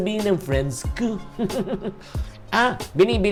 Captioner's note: laughs